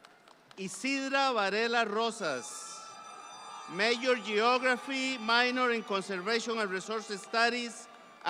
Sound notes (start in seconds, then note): 2.2 audience cheering